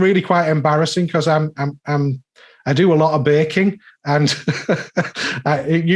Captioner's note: laughing